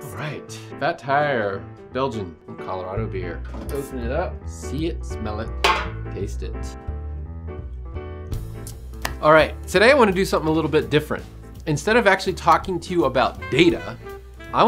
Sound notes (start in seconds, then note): 5.6 bottle clonks